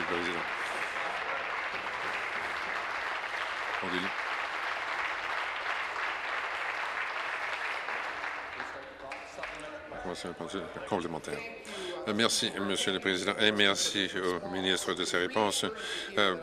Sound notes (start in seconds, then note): 0.0 applause